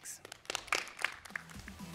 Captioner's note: applause